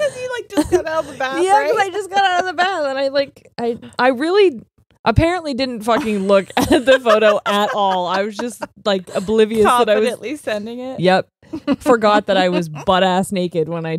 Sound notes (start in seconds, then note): 0.0 both laughing; 7.7 laughing